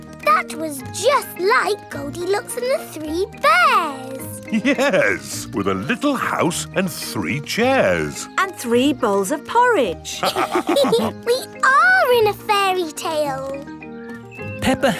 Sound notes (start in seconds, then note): 4.4 chuckling; 10.2 all laughing